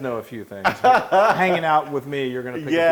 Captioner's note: laugh